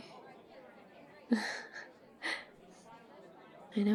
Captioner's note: shy whisper; nervous laugh